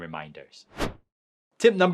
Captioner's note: transition whooshing